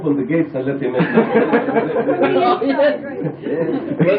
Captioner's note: laughter